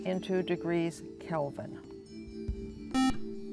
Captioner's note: buzzer